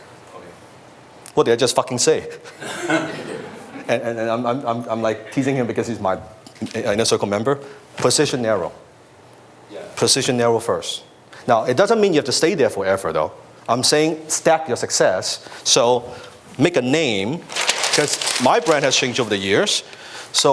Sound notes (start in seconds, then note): 2.6 audience laughs